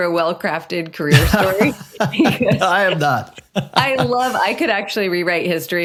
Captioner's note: laughing